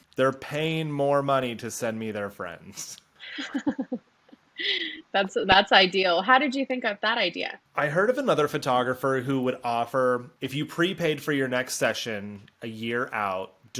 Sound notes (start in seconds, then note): 3.2 laughs